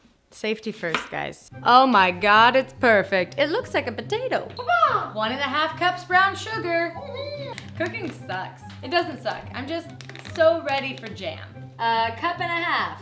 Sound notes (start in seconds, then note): 7.0 humming